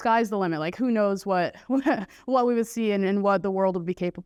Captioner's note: laughter